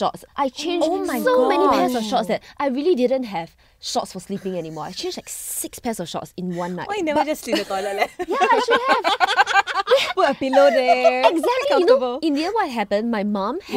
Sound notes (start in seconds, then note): 9.0 girls laughing